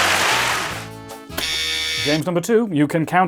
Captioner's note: buzzer